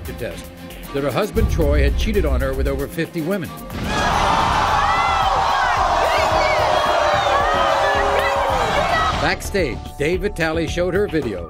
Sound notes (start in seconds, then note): 6.9 audience groaning